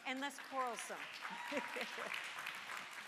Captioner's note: all laugh; chuckles; audience applauds